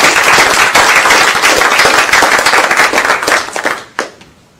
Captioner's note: applause